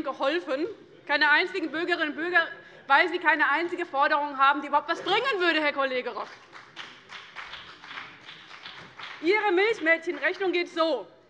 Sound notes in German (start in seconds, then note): 6.2 Beifall bei dem BÜNDNIS 90/DIE GRÜNEN und der CDU